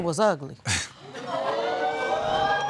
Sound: audience exclaiming

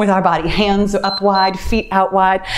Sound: timer beeps

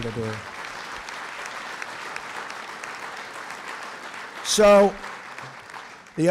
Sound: applause

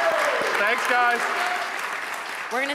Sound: audience cheering; audience applauding

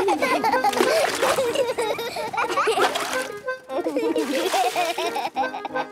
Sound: excited laughter

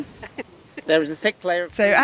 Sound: laughs

